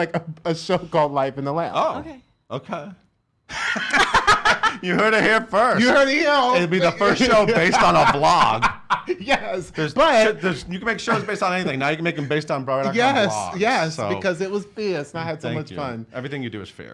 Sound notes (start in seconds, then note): 3.7 laughs; 6.2 laughs